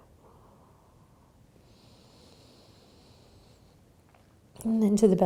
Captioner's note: breathing